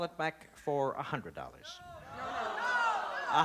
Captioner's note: shouting